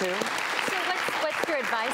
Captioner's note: clapping